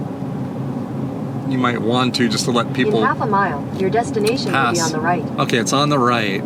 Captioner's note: Google Maps speaks